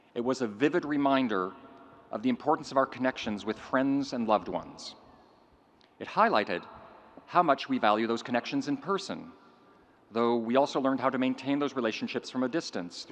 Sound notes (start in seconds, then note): none